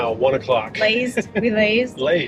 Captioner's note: chuckles